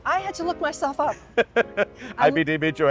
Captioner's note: laughing